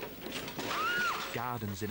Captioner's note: woman screams